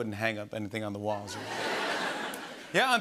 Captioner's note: laughter